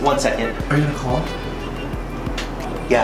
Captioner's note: male Voice